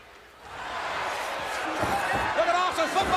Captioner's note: crowd cheering